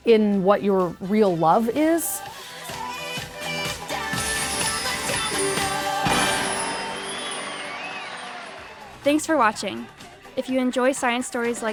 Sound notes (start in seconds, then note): 5.8 crowd cheering; 6.0 confetti popping